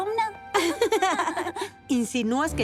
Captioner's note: giggles